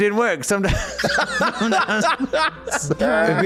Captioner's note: laughs